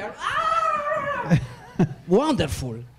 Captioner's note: screams